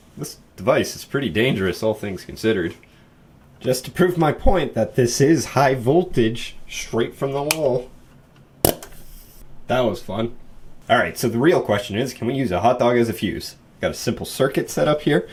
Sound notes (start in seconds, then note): 7.4 click of a switch being pressed; 8.0 crackling